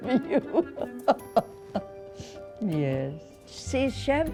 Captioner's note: laughs